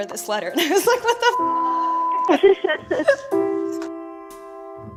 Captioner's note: laughs